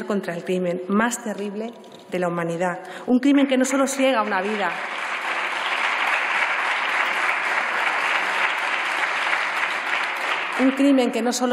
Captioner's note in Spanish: Aplausos